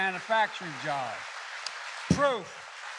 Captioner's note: applause